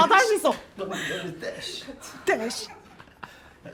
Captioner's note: shoosh shoosh...sh?